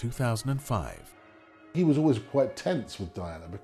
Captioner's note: voiceover